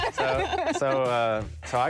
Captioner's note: laughing